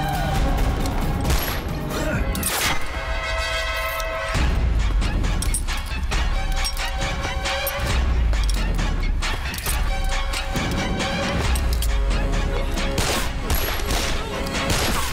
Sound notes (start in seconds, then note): 1.2 gun shots; 12.8 gun shots